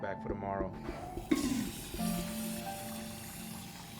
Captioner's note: toilet flushing